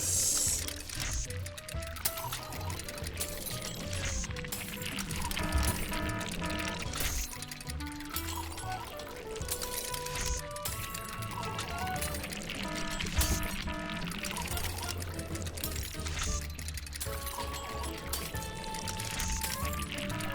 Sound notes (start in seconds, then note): 0.1 machine clacking and buzzing; 4.9 alarm ringing; 7.1 splatters; 8.0 machine clacking and buzzing; 12.6 alarm ringing; 14.4 splatters; 15.5 machine clacking and buzzing; 20.0 alarm ringing